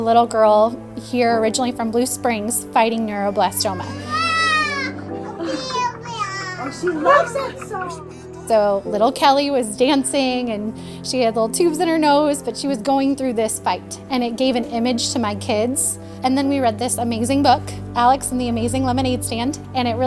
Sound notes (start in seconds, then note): 5.2 toddler crying out